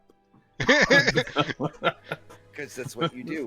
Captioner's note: laughter